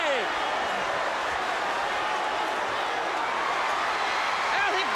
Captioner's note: crowd cheering